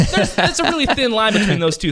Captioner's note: laughing